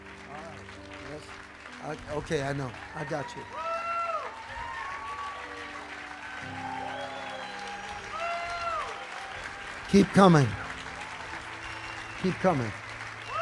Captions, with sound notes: All right, yes. Okay, I know, I got you. (congregation cheering) Keep coming. Keep coming.